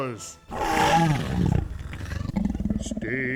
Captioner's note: roar